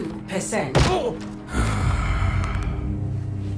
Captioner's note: sigh